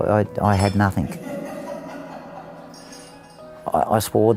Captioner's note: boys Laughing